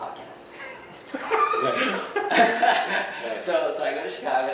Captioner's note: laughs